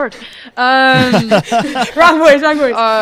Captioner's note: laughter